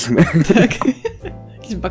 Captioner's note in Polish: śmiech